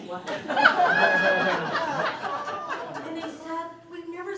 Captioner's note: laughter